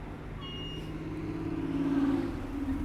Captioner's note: car horn